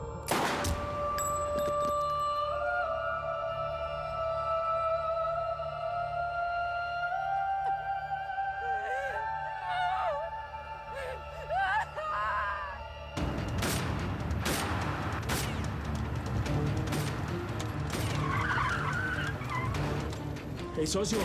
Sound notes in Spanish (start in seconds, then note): 10.8 llanto; 18.8 chirrido de llantas